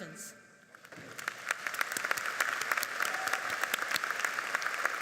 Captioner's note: audience applauding